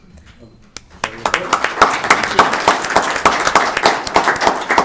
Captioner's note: all applauding